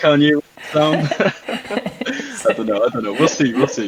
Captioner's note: both laughing